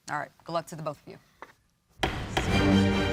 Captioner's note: gavel strikes